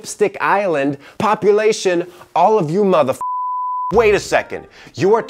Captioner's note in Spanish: beep